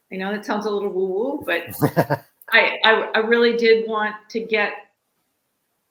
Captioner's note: laughs